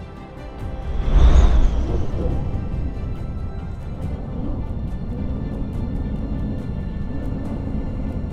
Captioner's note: rushing Wind